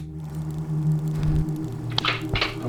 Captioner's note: movie projector whirring; serious music